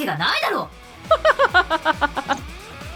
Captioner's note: chuckles